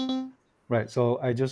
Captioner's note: tone and beeps